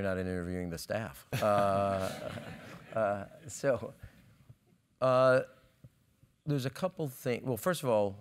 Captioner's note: laugh